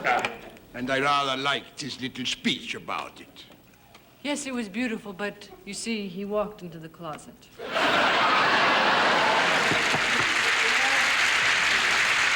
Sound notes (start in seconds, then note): 7.6 audience laughing and applauding; 9.7 knocking on door